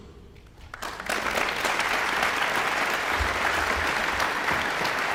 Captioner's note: audience applauding